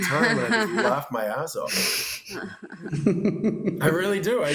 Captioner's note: laughter